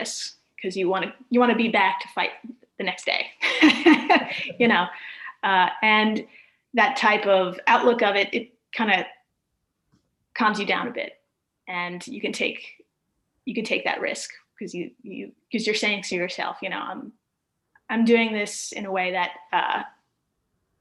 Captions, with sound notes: want to be back to fight the next day. (chuckling) you know? And that type of outlook of it kind of calms you down a bit and you can take that risk because you are saying to yourself, I'm doing this in a way that I'm going